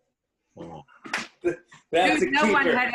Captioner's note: laughs